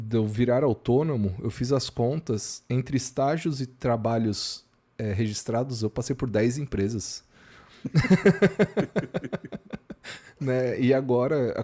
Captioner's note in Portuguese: risadas